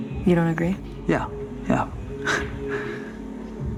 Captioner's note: chuckles